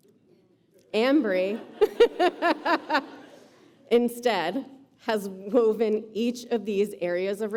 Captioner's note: laughs